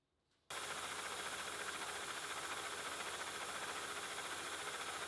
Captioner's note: machine whirring